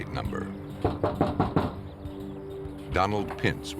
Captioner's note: knocking